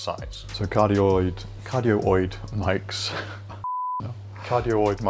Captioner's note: beep